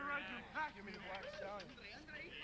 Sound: chatter and laughter; chatter and laughter continues

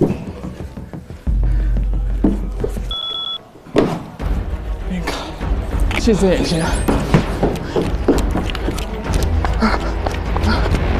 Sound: laughing

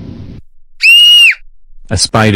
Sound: Caillou screams

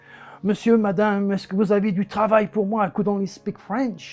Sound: speaking in foreign language

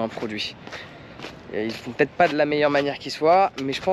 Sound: speaking in foreign language

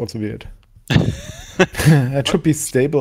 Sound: laughs

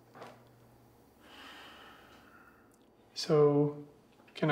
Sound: Josiah sighs

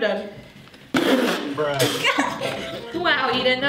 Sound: laughing

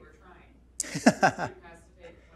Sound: laughs

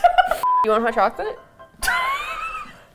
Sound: laughs

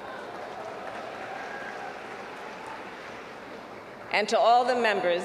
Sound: applause

